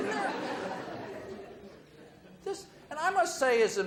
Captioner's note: audience laughs